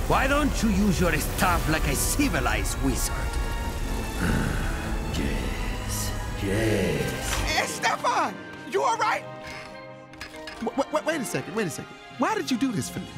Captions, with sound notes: Why don't you use your staff like a civilized wizard? -[dramatic music playing] -[growls] Yes. Yes. Estefan! You all right? [creaks] W-- W-- W-Wait a second. Why did you do this for me?